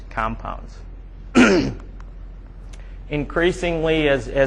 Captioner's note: throat clearing